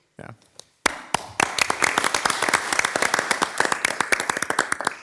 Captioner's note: everyone applauds